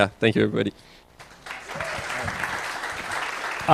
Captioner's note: applause